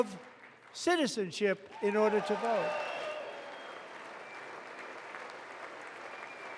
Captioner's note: applause